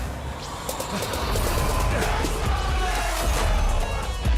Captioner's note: growling